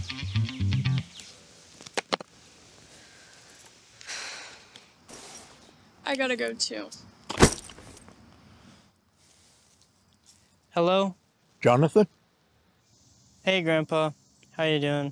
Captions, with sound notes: I gotta go, too. [bag thump on ground] Hello? Jonathan? Hey, Grandpa. How are you doing?